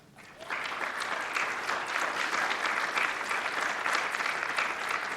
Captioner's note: applause